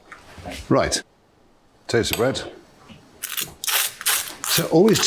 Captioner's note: knife scraping